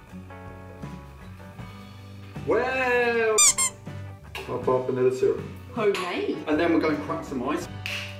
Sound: squeaky Toy Sound

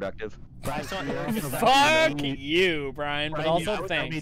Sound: laughter

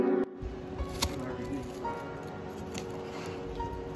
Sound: crunchy ASMR

